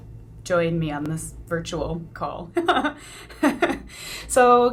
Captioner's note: laughs